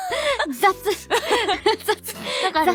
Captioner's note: laughs